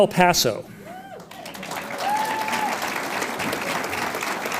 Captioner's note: audience applauds